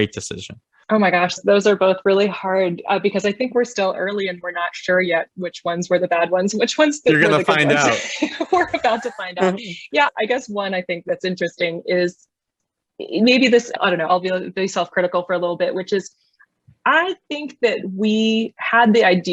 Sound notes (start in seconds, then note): 7.1 laughing; 7.2 chuckles